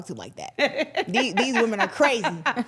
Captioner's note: laughing